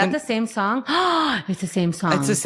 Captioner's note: gasps